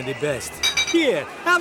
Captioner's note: glass clinks